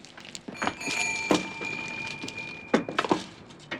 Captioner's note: bells jingling